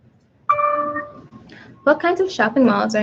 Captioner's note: computer dings